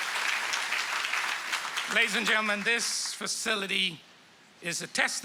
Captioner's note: applause